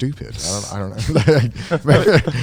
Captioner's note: laughs